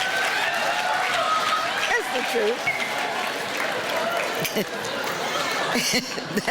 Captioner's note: laughing